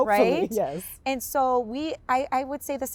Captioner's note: laughs